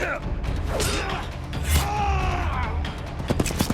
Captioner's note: grunting and groaning